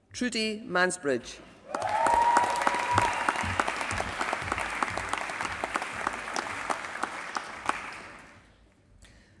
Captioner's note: applause